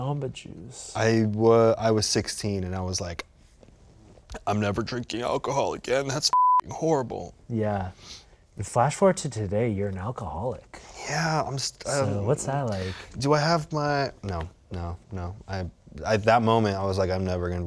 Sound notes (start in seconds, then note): 6.3 beep